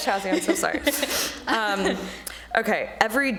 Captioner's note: laughing